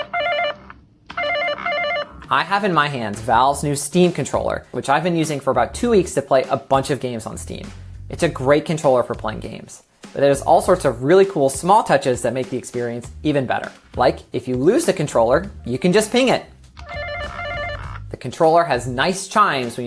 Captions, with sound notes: (controller ringing) I have in my hands Valve's new Steam Controller, which I've been using for about two weeks to play a bunch of games on Steam. It's a great controller for playing games. But there's all sorts of really cool small touches that make the experience even better. Like if you lose the controller, you can just ping it. (controller rings) The controller has nice chimes